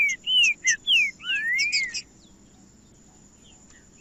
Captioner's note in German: trinca ferro cantando